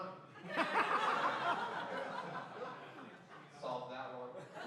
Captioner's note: laughing